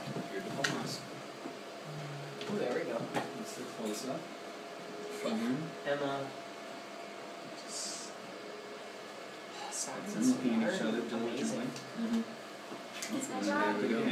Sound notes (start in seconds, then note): 10.1 group chattering